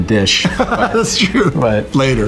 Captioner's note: laughs